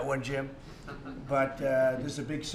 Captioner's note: laughs